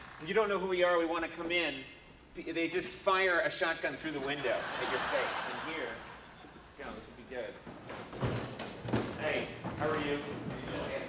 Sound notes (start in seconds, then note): 4.3 audience laughs